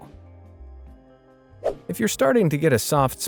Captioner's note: swoosh